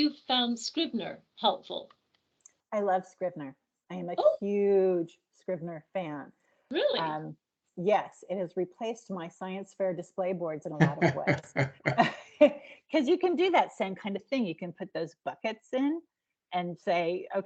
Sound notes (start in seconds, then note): 10.8 laughing